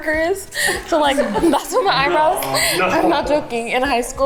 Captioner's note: everyone laughing